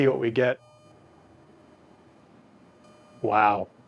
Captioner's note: tester buzzing